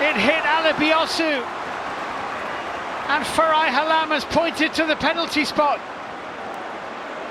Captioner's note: cheers and applause; crowd noise